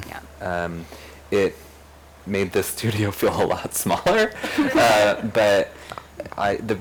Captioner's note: laughs